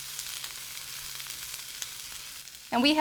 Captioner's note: food sizzling